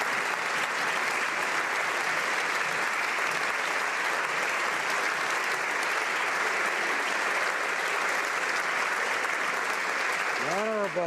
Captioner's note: applause